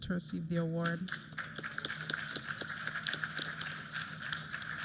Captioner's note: applause